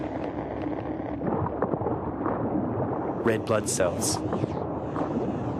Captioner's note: gurgling